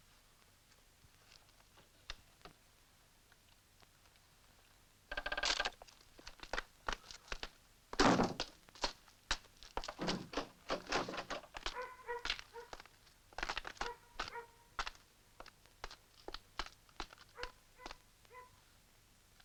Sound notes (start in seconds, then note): 5.5 camera shutters; 11.7 dog barking